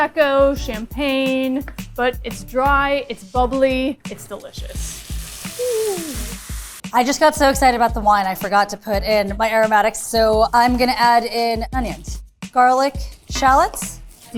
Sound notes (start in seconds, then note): 4.8 cava sizzles